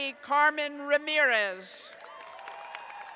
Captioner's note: cheers